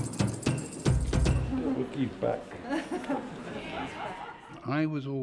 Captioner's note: laughs